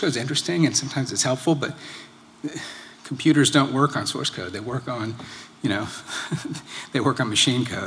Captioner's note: laughter